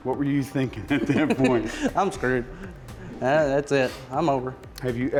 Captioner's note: laughs